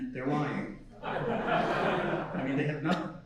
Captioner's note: laughing